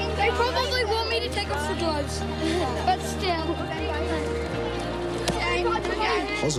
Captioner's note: chuckles